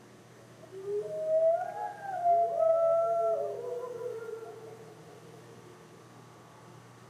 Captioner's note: two very loud howls